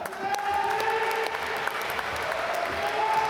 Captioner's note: applause